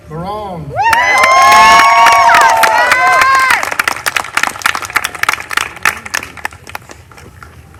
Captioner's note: applause